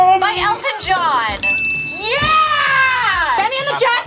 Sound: bell rings

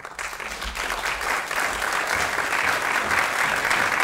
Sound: applause

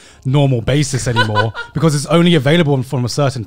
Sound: laughing

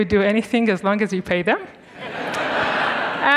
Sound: students laughing

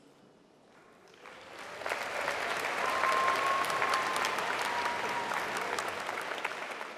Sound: applause

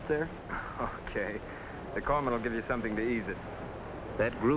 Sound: laugh

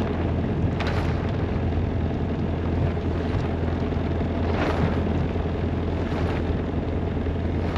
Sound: halyard sounds

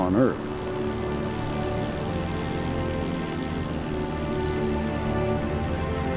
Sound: aircraft engine roaring

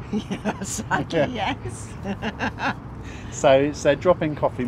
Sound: laughter

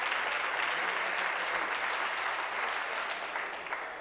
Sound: applause

